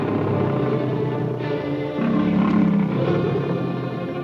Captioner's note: growling